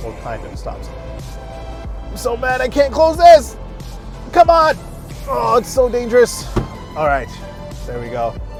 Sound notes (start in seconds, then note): 5.5 groans